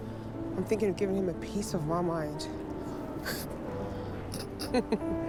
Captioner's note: laughs